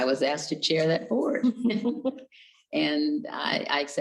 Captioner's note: chuckles